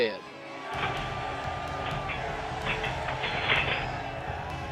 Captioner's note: men shouting